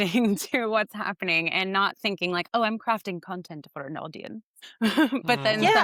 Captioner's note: laughs